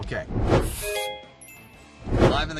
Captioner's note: chiming